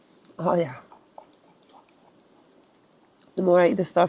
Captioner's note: pot clacking